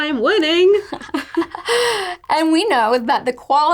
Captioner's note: laughing